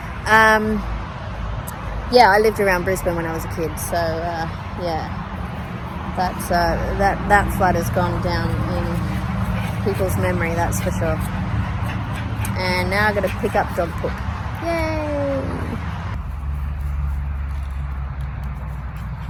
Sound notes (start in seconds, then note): 14.5 mock enthusiam; 16.4 traffic noise continues in the background